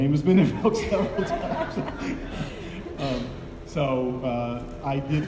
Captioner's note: laughing